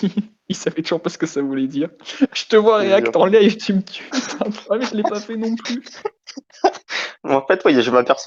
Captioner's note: laugh